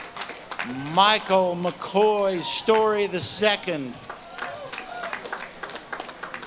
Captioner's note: audience claps and cheers